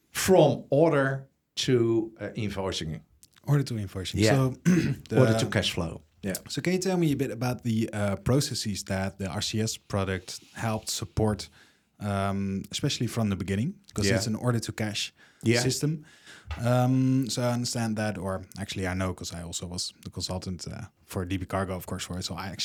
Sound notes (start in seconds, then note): 4.5 clears throat